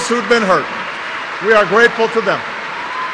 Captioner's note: applause